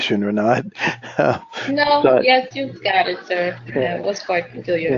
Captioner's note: laugh